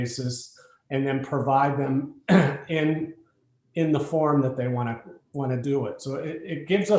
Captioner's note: cough